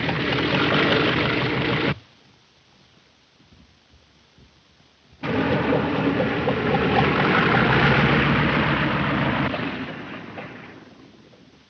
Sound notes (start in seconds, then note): 5.2 engine droning